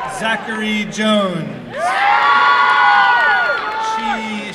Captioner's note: applause and cheering